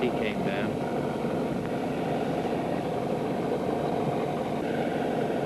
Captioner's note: engine revs